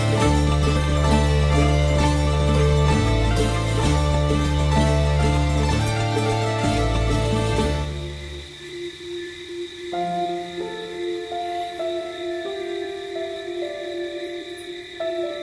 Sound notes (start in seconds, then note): 8.4 crickets chirping; 9.6 soft piano playing